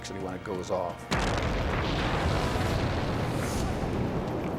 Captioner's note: site exploding